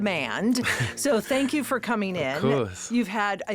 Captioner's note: Josh laughing